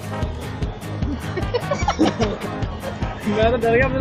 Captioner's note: laughs & Giggles